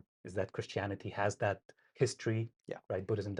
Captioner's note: none